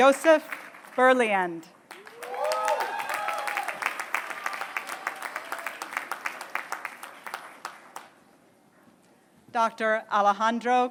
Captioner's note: applause